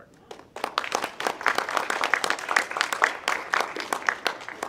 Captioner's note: audience clapping